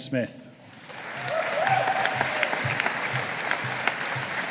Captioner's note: audience applauding